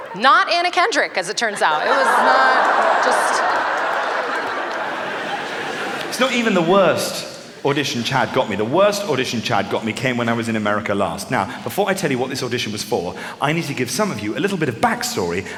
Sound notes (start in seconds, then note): 3.8 laughter